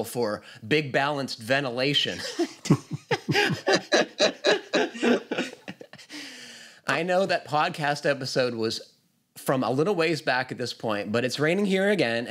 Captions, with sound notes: for big balanced ventilation." [LAUGHTER] "I know that podcast episode was from a little ways back at this point, but it's raining here again,